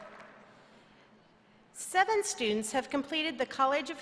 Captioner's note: applause